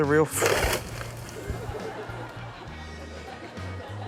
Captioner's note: laughter